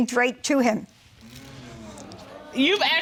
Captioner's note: audience sighing